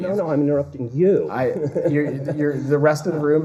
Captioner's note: laughter